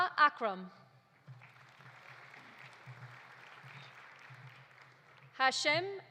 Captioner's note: audience applauding